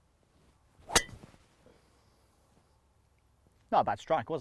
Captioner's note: club thwacks